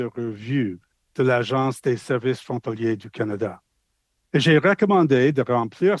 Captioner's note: speaking French